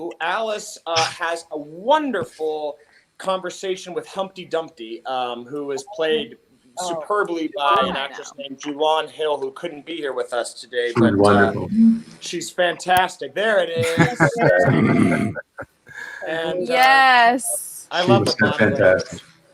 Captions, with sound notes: Alice has a wonderful conversation with Humpty Dumpty who was played superbly by an actress named Julanne Hill, who couldn't be here with us today. - She looks wonderful. - She's fantastic, there she is. (participants laugh) And I love the-- - She looks fantastic.